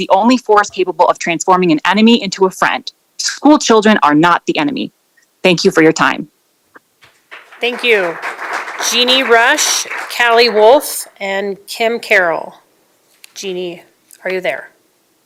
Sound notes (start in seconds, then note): 9.8 applause